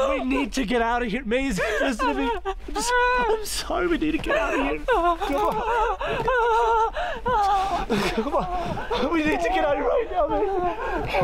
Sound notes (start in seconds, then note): 2.0 sobbing; 5.8 sobbing; 8.0 grunting